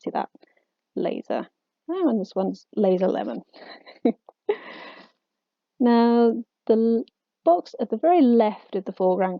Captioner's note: laughs